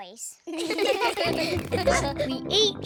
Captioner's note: snorts; all laugh